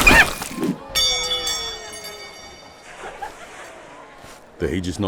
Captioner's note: tap, metal ringing